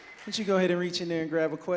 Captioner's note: audience cheering